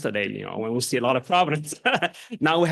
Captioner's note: chuckles